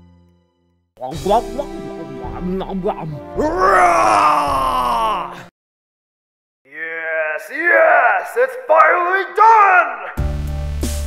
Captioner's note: ⟡ agonizing screaming ⟡; ⟡ Amazing Music ⟡